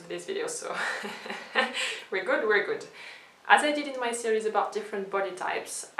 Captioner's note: chuckles